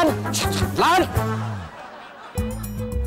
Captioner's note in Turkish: Gülme efekti